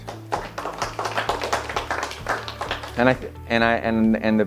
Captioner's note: audience clapping